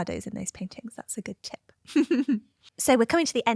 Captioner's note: laughter